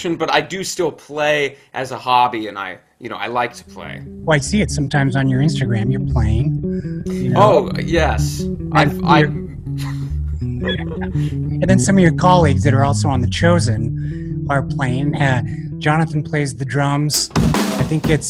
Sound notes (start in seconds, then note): 10.4 laughs; 17.1 drums playing